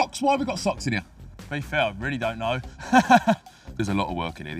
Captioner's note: laughs